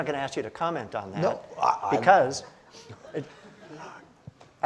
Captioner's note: audience laughs